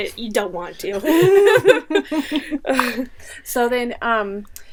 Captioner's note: laughing